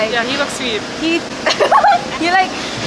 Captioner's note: chuckles